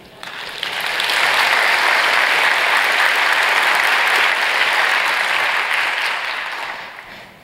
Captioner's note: applause